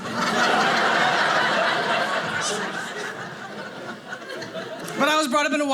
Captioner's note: audience laughing